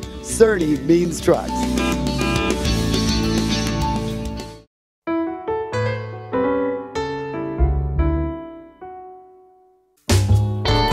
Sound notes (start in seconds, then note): 1.7 truck honks; 5.2 bluesy music